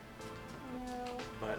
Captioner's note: laughing